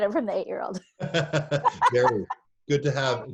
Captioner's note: laugh